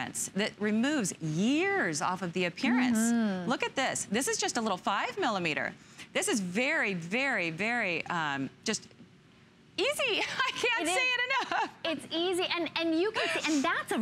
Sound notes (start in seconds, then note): 10.2 laughter